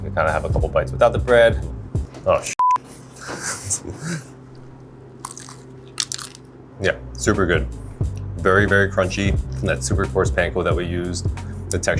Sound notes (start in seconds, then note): 2.6 beeps; 3.2 laughs